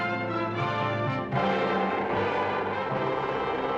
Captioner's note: growling